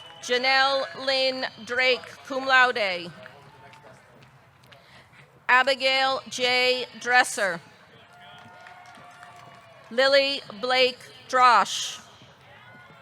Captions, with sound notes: Janelle Lyn Drake, cum laude. Abigail J. Dresser. (audience cheering) (audience clapping) Lily Blake Droesch.